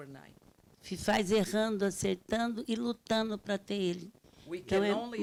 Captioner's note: speaking Portuguese